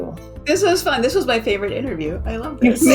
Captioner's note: laughs